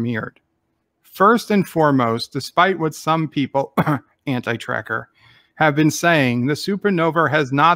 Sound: cough - Anti-Trekker

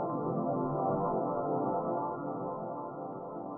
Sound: none

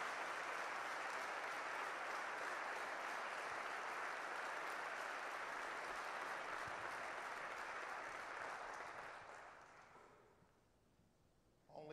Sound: applause

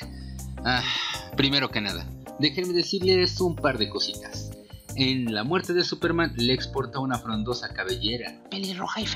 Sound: sigh

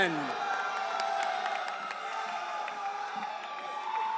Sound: audience cheering

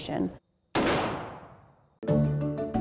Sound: gun blasting

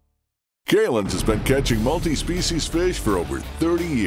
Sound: voiceover

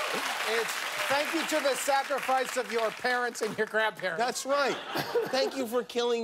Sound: cheers and applause

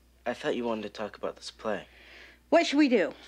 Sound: sighs

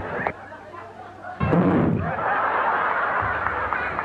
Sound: blows air into microhone; audience laughs

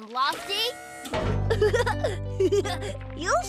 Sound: giggling

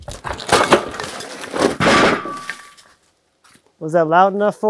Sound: log clanks

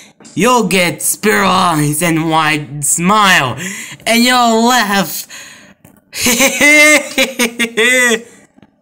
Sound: laughing

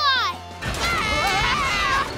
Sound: screaming

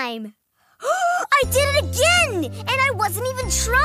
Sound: gasps

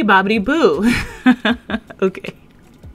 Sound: laughs

